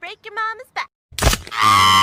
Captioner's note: crack